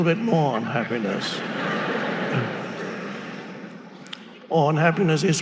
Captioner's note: audience laughing